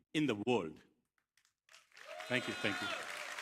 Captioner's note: cheers, applause